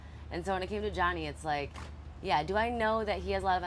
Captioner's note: none